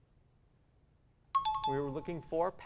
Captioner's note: pinging